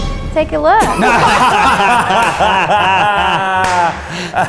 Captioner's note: scary music; laughs